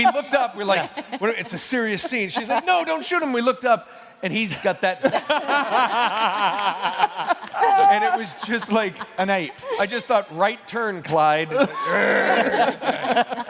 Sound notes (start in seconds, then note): 5.0 laughter